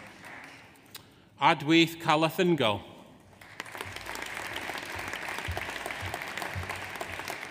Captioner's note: audience applauds